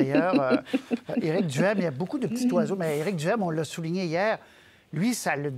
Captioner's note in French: rires